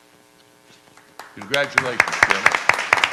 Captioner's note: clapping